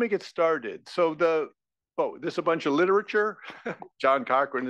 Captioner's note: laugh